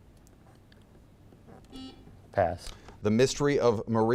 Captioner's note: buzzer beeping